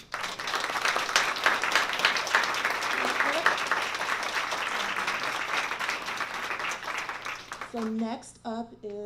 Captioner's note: applause